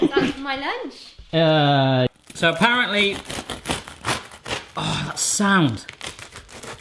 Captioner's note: crunching